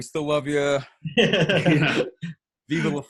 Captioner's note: laughing